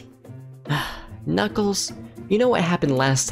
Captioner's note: sighs